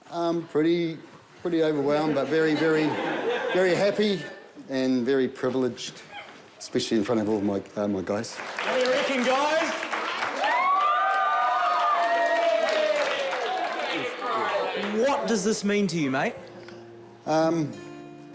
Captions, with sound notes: - Um, pretty... pretty overwhelmed, but very, very, very happy and very privileged, especially in front of all of my guys. - (APPLAUSE) - What do you reckon, guys? - (CHEERING) What does this mean to you, mate? - Um...